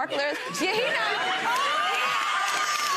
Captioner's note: gallery laughs